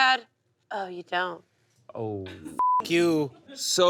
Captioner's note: beep